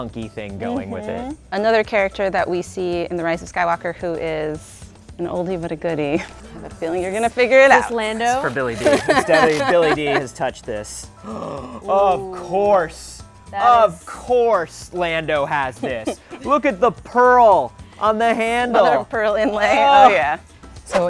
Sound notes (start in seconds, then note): 9.3 laughs; 11.2 gasps